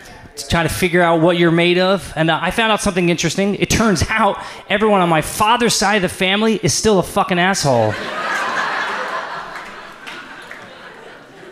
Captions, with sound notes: To try to figure out what you're made of. And I found out something interesting. It turns out everyone on my father's side of the family is still a fucking asshole. (audience laughs)